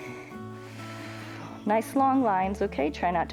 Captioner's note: exhales